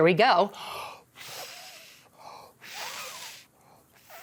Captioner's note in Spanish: inhala profundamente; Silbido de respiración